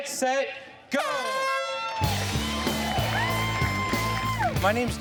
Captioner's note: air horn blaring; upbeat rock music